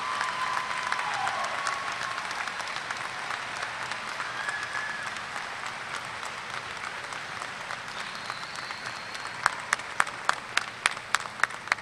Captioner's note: applause